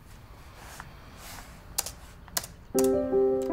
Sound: keys clacking

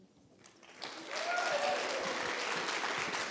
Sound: applause

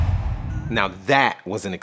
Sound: logo swooshes

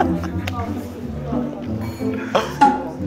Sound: an etiquette-filled silent laugh

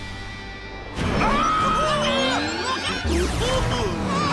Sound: screaming

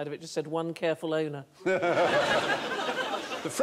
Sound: laughter

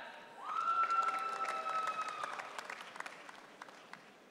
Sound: audience cheering

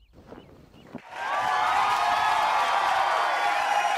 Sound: crowd cheering

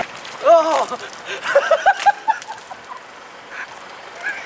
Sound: laughs

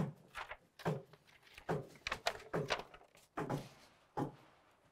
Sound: hammer pounding

